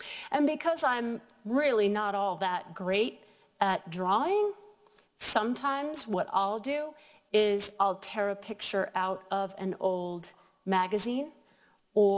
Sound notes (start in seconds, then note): none